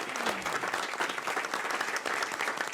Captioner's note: applause